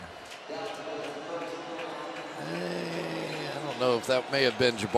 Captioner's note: pa announcement